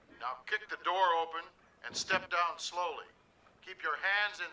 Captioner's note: none